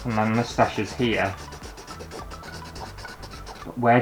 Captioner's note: pen Scraping On Canvas